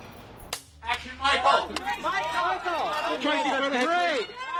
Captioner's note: paparazzi yelling